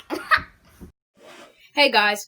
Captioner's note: laughs